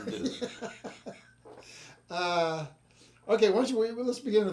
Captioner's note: laughing